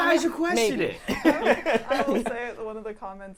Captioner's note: laughing